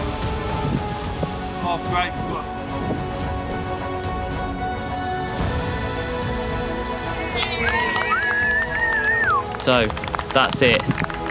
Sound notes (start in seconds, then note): 7.0 cheering